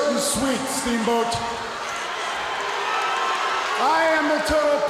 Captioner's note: crowd cheering